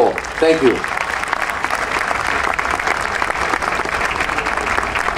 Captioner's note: audience applauding